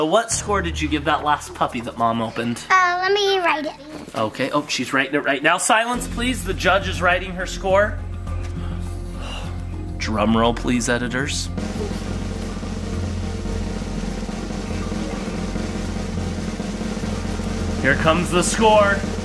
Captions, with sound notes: what score did you give that last puppy that mom opened? - Oh, let me write it. - Okay. Oh, she's writing it right now. Silence, please. The judge is writing her score. (sighs) Drum roll, please, editors. (drum rolls) Here comes the score.